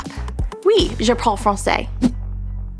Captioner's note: speaking french